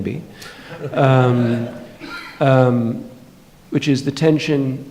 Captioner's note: audience laughing